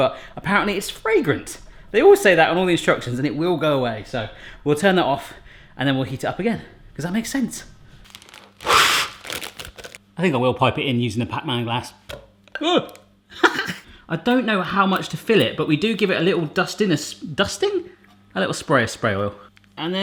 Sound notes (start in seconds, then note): 8.5 blowing; 13.3 he laughs